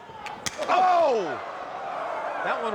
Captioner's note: slap reverberates